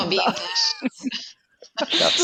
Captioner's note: laughter